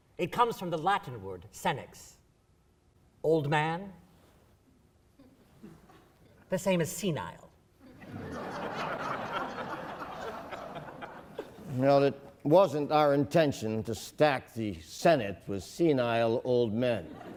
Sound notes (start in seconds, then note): 7.8 laughing